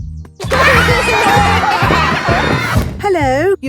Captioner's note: laughter